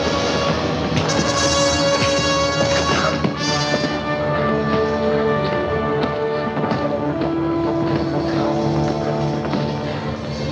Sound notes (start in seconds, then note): 0.0 suspenseful music continues; 0.0 blows thudding